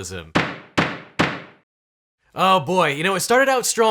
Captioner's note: gavel bangs three times